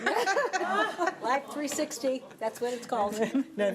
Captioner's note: group laughing